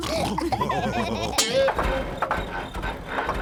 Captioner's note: car clunks